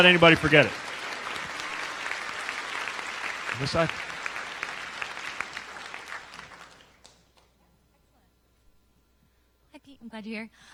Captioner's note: applause